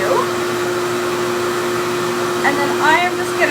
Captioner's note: hair dryer whirs continues